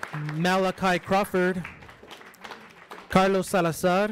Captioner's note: audience applauds